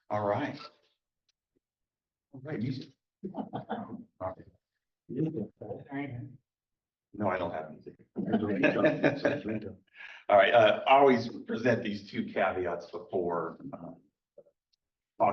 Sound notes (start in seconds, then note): 8.2 laughter